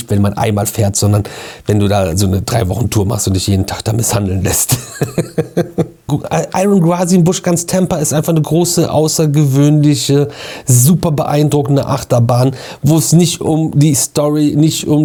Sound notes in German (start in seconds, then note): 4.6 gelächter